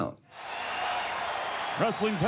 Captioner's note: applause